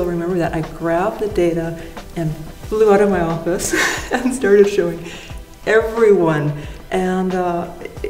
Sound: laughs

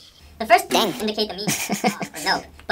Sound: laughs

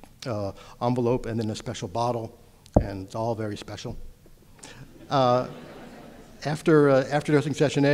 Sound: audience laughter

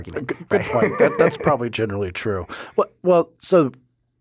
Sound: laughing

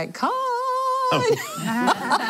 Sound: laughter

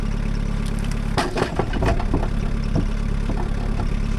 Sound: log clatters

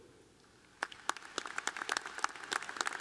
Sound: applause

